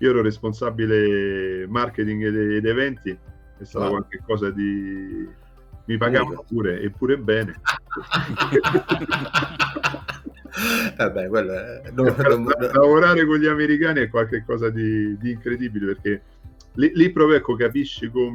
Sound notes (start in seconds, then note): 7.3 laughs